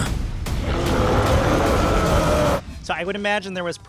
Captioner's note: growling